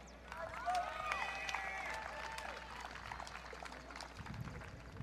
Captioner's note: audience cheering